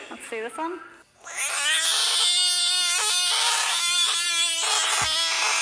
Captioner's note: frog screeching